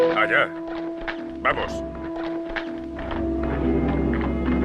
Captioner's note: Red Hawk speaks Spanish